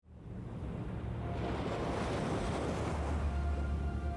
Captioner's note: sea waves rumbling; background music